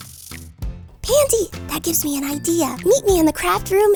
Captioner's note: whispering